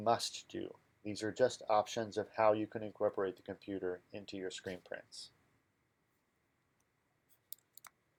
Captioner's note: click noise